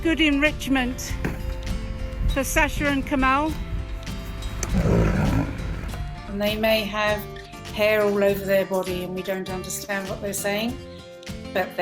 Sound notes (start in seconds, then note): 4.2 tiger growls